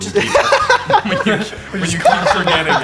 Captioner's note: laughter